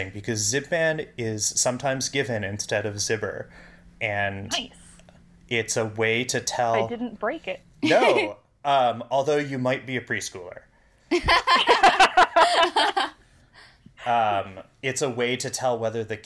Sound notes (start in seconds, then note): 7.8 laughs; 11.1 laugh